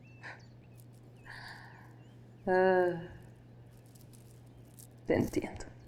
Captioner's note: birds chirping